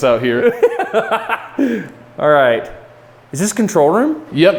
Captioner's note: laughs